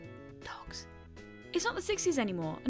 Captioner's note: whispered